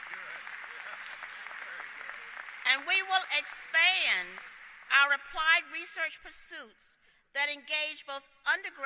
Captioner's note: applause